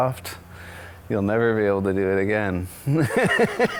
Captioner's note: laughs